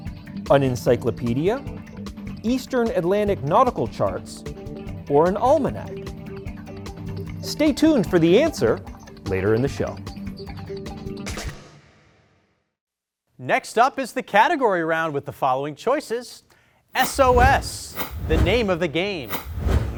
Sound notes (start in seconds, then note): none